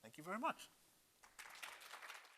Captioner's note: applause